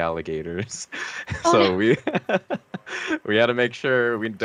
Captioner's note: laughing